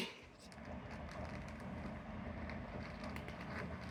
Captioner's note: cats munching kibble